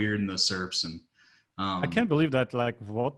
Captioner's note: laughing